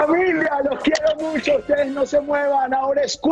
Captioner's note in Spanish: risas